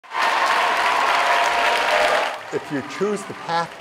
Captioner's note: applause